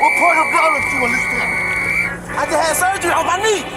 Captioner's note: ref whistle blows